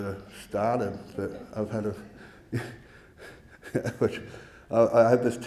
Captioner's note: laughing